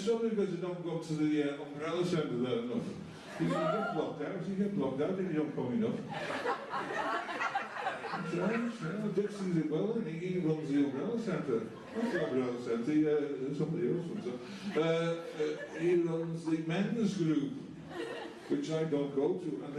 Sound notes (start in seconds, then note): 6.0 laughter